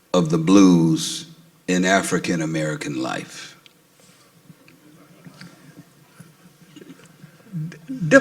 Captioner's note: audience stirs